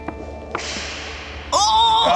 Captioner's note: wild West music; whip cracks